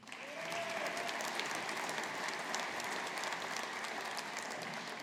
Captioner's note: audience applauding